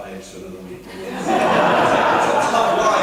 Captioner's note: laughter